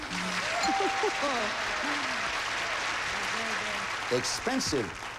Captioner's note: audience applauding